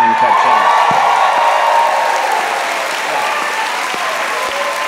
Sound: cheering and clapping

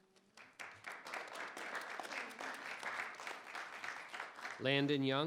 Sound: audience applauding

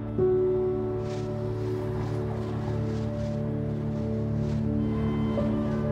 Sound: fast moving traffic and horns blaring

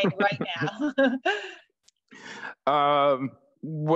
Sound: laughter

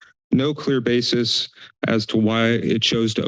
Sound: inhales

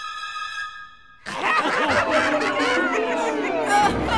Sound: laugh; sobbing

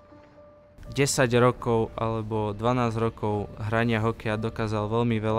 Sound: speaks Slovakian

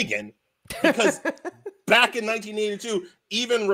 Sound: laughs

